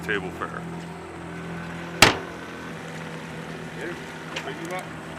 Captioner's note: lid closing